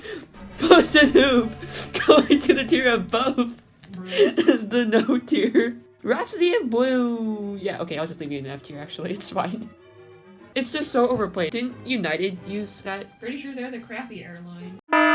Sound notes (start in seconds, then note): 0.0 laughter; 1.6 laughing; 4.2 laughter; 4.5 laughing